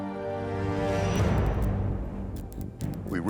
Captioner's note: dramatic music; light buzzing